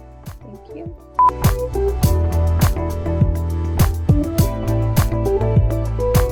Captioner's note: beep